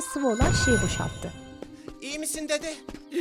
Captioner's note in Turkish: Patlama sesi